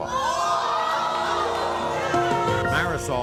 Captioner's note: crowd cheering